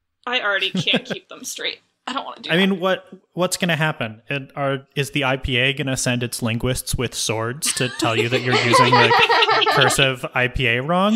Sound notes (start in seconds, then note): 0.5 laughs; 7.6 laugh